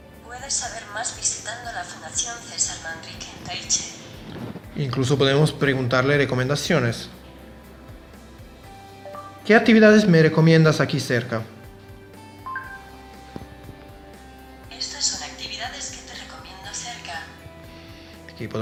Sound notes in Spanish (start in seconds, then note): 12.5 blip